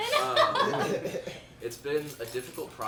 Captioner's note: group laughing